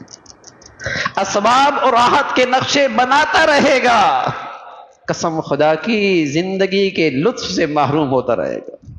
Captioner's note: laughter